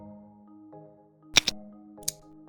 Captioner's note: click sound